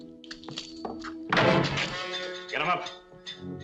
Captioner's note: door slams